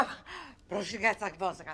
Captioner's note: keyboard clicking; woman speaking unknown foreign language